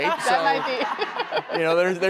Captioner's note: laughs